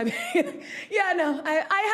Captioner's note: laughing